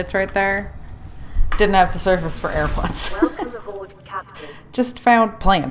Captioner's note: laughs